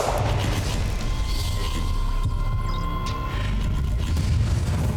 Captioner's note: gunshots; mechanical whirring; thrilling music